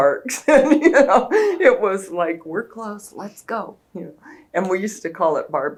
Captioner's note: laughs